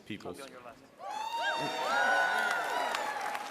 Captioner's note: applause